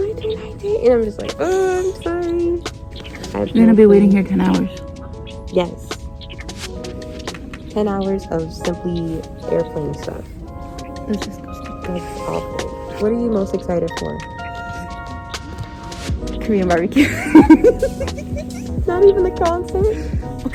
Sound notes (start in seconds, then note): 16.9 both laughs; 16.9 laughs